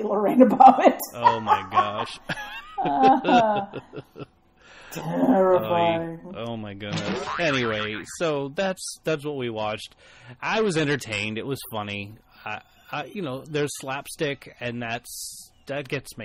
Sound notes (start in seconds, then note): 1.1 laugh; 6.9 boing noise in background